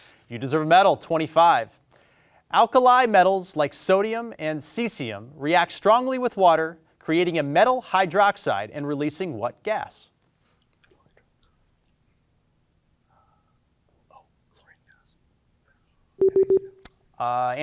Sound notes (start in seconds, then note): 10.9 students whispering; 16.2 tone beeping